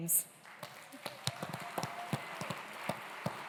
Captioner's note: cheers, applause